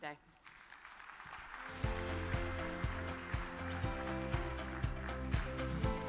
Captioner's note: audience applause; uplifting music